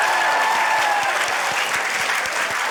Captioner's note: cheering, applause